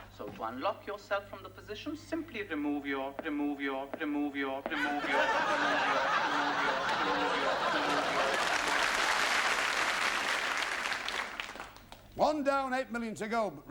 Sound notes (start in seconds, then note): 4.7 laughter; 6.7 applause